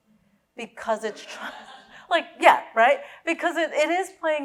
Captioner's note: laughing